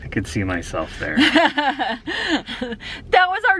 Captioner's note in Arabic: يضحك